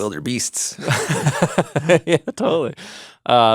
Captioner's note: laughing